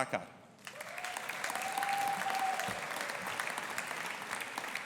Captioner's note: audience applauding